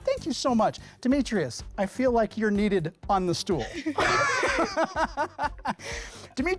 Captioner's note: laughs